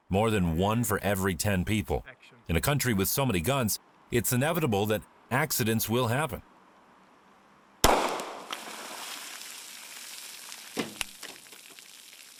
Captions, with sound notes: more than one for every 10 people. In a country with so many guns, it's inevitable that accidents will happen. (gunshot crackling) (water splashes)